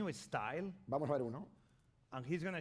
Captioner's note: speaking spanish